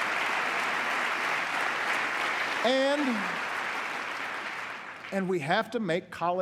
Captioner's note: applause